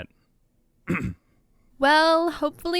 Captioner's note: clears throat